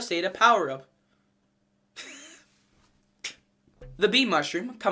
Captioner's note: wheezing laugh